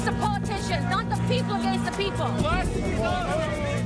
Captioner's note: horns